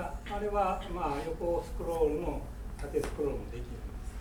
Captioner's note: speaking in foreign language; coughing